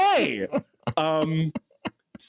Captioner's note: laughs